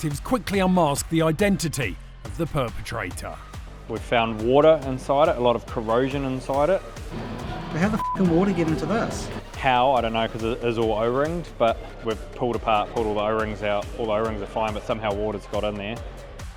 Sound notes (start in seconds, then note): 7.2 beep